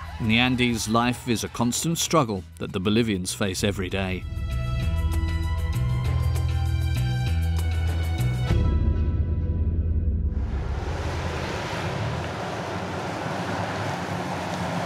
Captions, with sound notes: The Andes life is a constant struggle that the Bolivians face every day. (dramatic music) (engine rumbling)